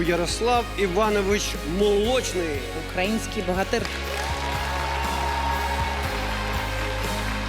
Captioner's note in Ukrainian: оплески